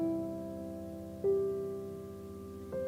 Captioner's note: none